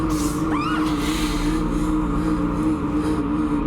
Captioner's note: gritos